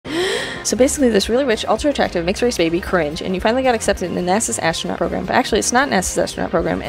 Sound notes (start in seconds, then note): 0.0 breathes in